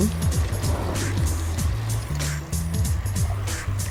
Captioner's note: bicycle and busy street